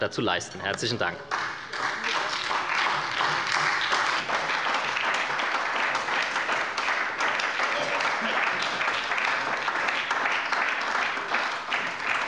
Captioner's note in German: Beifall bei der SPD